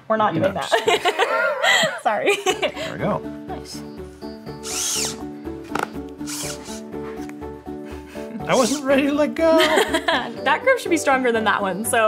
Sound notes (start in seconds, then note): 0.8 person laughing; 4.6 machine whirring